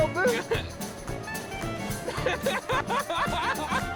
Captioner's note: laughing